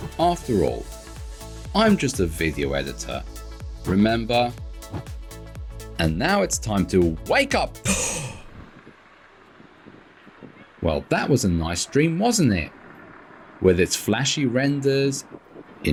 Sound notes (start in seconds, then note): 7.9 gasp